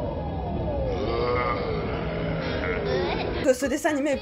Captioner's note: Robotnik scary growl